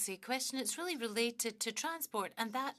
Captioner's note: speaking French